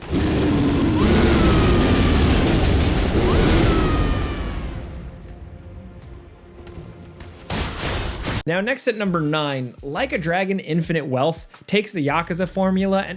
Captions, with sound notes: (character roars) (weapon slashes) Now next at number nine, "Like a Dragon: Infinite Wealth" takes the "Yakuza" formula